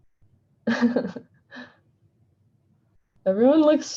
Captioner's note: chuckles